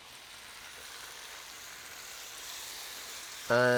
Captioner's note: pan sizzling